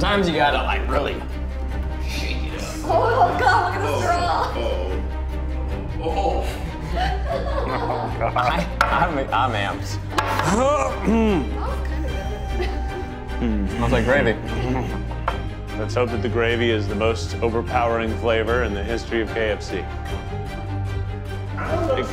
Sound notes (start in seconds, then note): 6.8 laugh; 10.2 glass clatters; 10.8 clears his throat